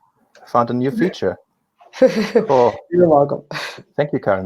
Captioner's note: chuckles